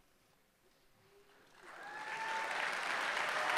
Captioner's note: applause